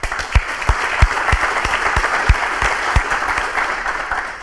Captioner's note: crowd applauding